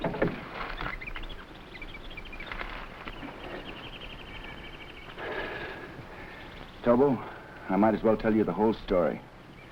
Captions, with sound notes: (wreck clanking) (animals chattering) (Gorman breathing hard) Tobo, I might as well tell you the whole story.